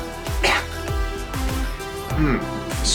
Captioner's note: cough